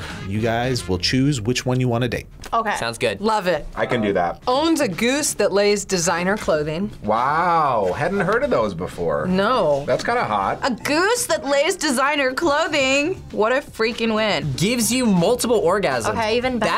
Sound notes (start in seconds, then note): none